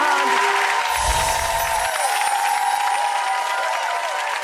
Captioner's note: audience cheering